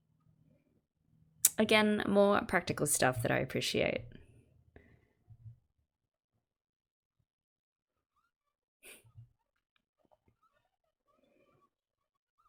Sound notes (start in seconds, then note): none